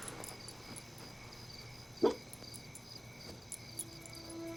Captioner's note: dog lets out a quiet bark